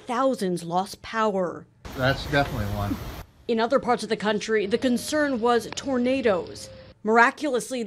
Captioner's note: tornado SOUND